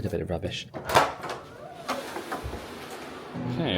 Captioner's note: door creaks